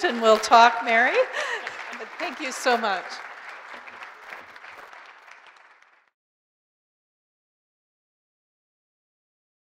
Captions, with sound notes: and we'll talk Mary, but thank you so much. (group applauding)